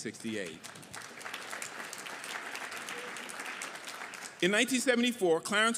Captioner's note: audience applauding